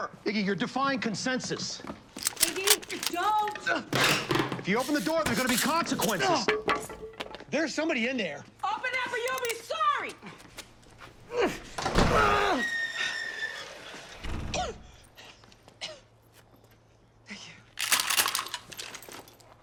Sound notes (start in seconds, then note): 2.1 guns clicking; 11.3 grunting; 13.7 coughing; 17.8 guns clicking